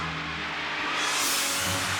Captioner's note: engine revs